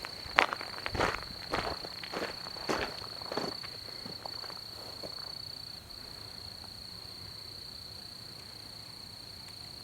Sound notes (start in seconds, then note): 0.0 footsteps on gravel